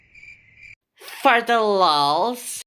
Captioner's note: cricket sounds